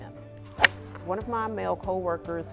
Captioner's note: golf club hitting ball